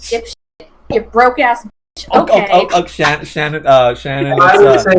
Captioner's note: laughs